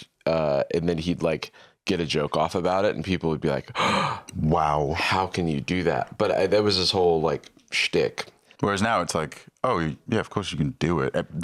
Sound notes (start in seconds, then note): 3.7 gasps